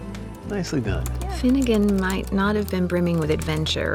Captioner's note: typing